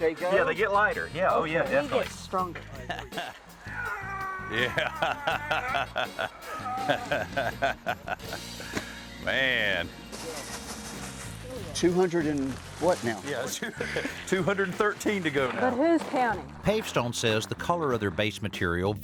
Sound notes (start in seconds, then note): 3.6 grunting; 5.8 laughing; 13.4 laughing